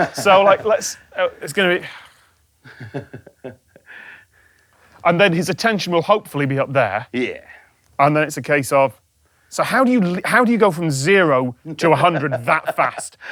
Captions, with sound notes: So let's— It's gonna be... (soft chuckle) And then his attention will hopefully be up there. Yeah. And then it's a case of... So how do you go from zero to a hundred that fast?